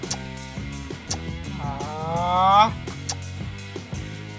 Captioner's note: raising voice